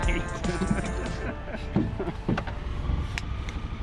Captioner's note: laughing